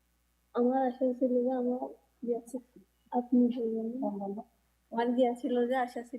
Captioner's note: speaking in foreign language